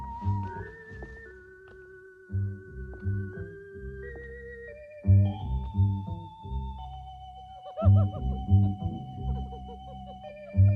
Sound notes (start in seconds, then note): 0.3 ominous music; 7.6 girls giggling